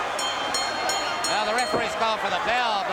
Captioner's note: crowd cheering; bell ringing